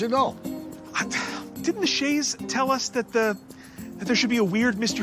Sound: sighs

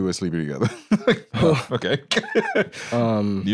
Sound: laughs

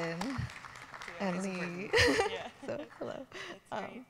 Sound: audience clapping

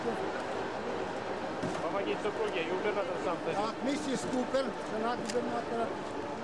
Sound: russian speech

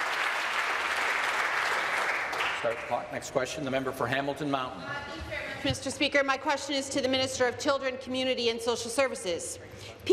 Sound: applause

